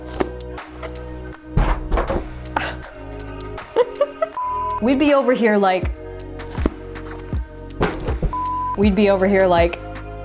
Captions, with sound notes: (chuckles) We'd be over here, like. We'd be over here, like.